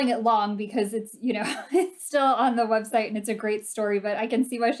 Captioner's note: laughter